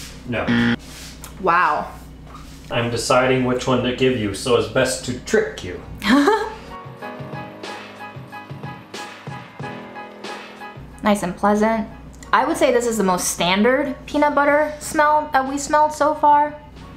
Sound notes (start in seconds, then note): 6.0 laughing; 6.8 upbeat music